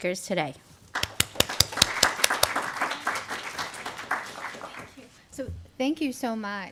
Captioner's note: applause